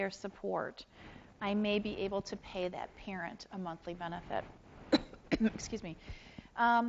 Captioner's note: coughs